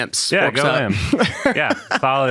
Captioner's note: participants laughing